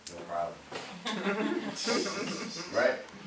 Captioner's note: laughing